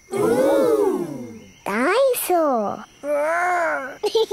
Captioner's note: giggles